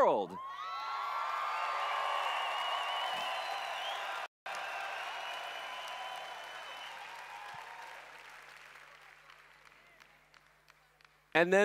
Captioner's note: cheering/Applause